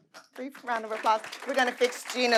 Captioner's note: audience applauding